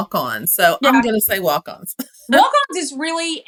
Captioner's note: laugh